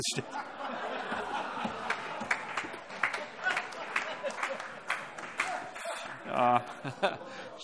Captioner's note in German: Heiterkeit und Beifall